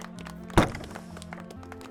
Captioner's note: gate bangs